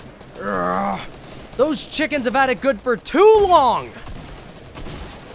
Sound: moans

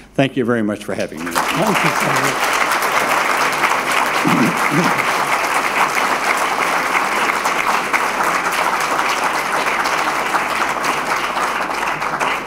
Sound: applause

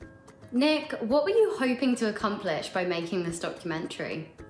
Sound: none

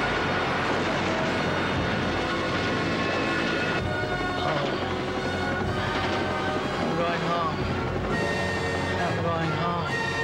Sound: helicopter engine roaring

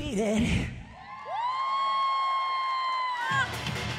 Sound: applause

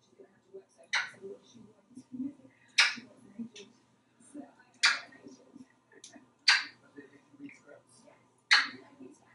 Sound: smooches

